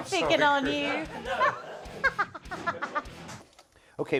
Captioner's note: laughter